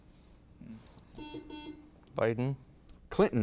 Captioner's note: buzzer beeps